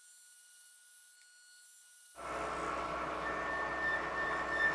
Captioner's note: whirring